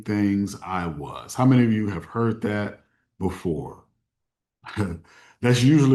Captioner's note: chuckles